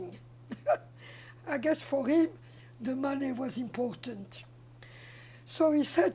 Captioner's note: laughing